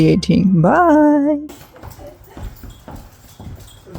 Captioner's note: dog bell